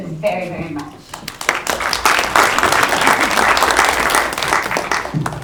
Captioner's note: applause